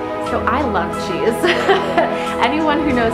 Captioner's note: laughs